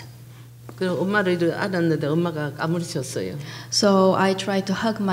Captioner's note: speaking foreign language